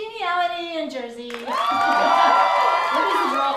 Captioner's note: cheering